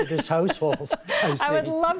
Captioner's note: laughter